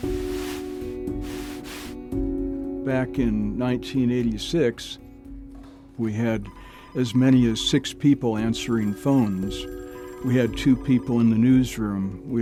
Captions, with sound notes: (instrumental music plays) Back in 1986- (phone ringing) ... we had as many as six people answering phones. We had two people in the newsroom.